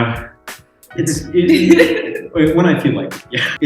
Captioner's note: laughs